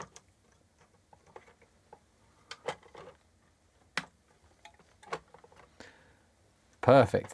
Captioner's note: silence